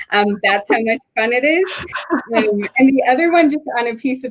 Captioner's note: both laugh